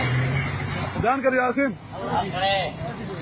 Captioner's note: officer speaks in foreign language